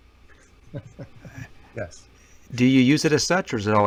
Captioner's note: chuckles